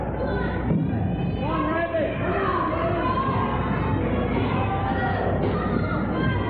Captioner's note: audience cheering for Randy